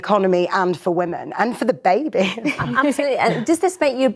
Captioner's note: laughs